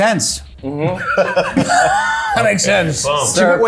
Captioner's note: laughing